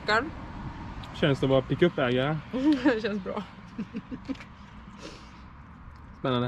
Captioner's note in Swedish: skratt